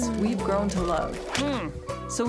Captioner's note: muffled grunt